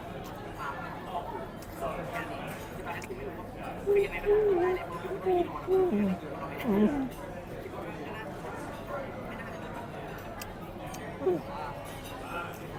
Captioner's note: munching